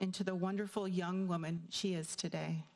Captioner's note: none